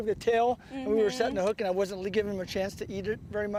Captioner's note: laughter